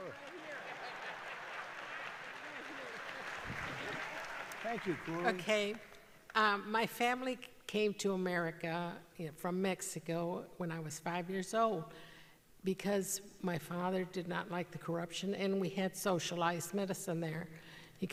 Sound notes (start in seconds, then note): 0.0 laughter and applause